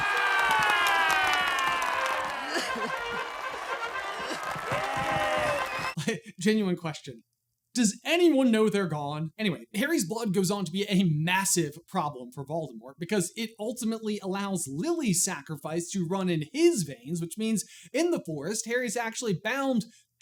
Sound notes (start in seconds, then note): 0.0 applause and cheering; 2.3 Harry crying; 2.4 applause and cheering